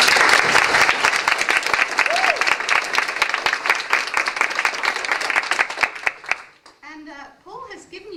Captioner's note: applause